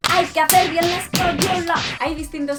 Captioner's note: punch noises